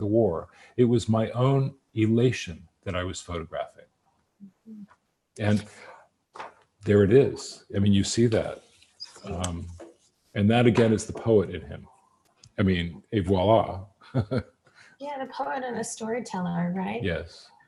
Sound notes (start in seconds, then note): 14.1 laughs